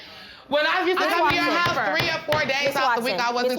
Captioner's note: both arguing; gavel banging